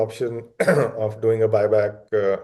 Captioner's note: clears throat